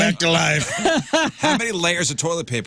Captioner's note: laughing